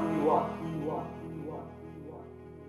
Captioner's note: voice echoes